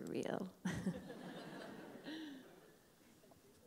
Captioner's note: laughs